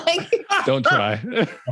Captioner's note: both laughing